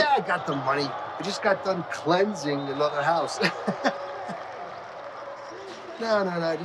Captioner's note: chuckles